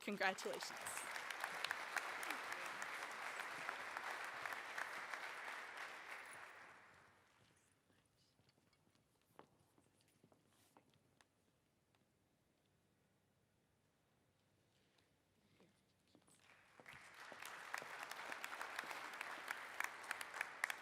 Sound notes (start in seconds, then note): 3.9 applause